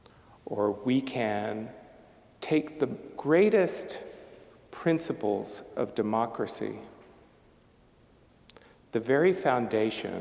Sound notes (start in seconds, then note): none